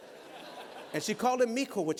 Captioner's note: laughter